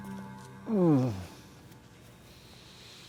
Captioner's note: Carter groans